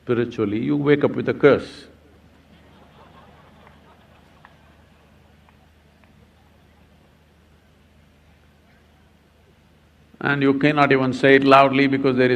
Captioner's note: laughter